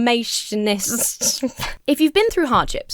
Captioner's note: breaks into laughter